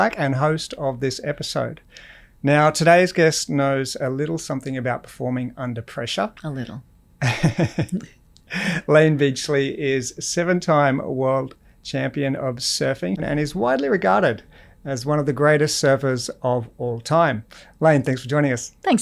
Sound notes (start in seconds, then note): 7.2 laughs